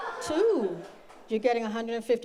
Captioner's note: audience laughs